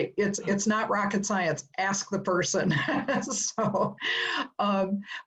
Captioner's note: laugh